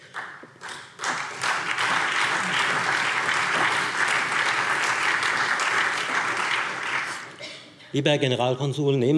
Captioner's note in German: Beifall Freie Demokraten, CDU, BÜNDNIS 90/DIE GRÜNEN und SPD